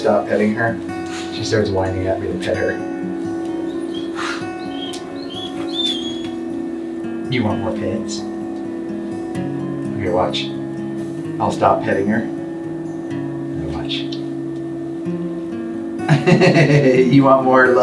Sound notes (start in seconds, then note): 4.3 Chiquita whining; 16.0 chuckling